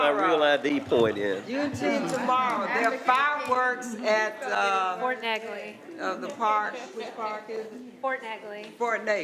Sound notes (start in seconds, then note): 2.4 others chatting; 4.4 others chatting